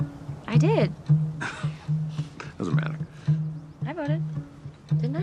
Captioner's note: scoffs